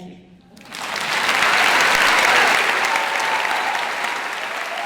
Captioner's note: audience applauding loudly